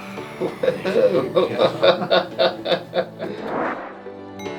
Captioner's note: both laughing